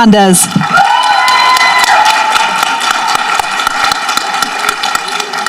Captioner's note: people applauding and cheering